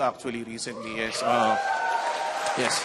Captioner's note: audience cheers